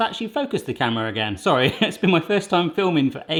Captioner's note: laughing